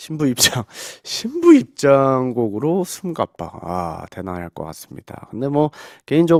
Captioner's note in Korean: 숨가빠